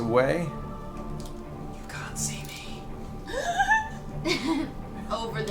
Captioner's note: whispers